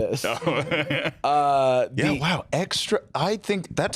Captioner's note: laughs